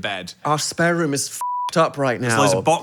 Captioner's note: beep